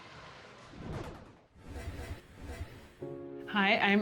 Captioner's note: scene whooshing